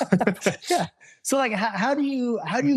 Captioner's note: laughing